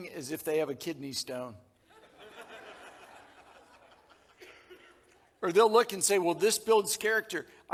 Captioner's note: audience laughing